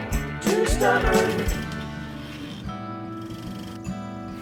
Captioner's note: tape rolling